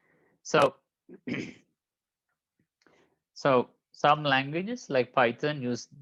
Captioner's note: clears throat